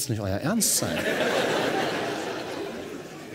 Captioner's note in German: Lachen